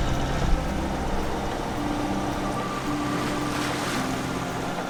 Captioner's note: waves whooshing